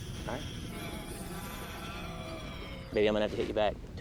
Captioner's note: beastly growling